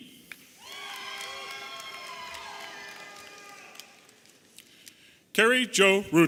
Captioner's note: audience applauding and cheering